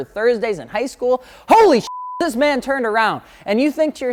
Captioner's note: beep